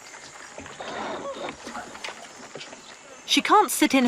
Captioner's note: orangutans squeaking